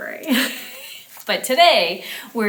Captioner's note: chuckles